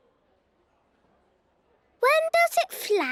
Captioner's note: silence